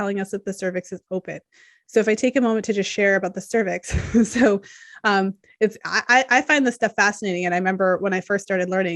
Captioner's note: chuckles